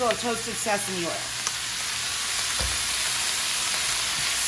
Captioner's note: sizzling